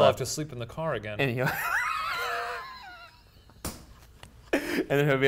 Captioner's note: laughing